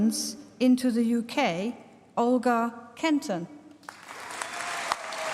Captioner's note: applause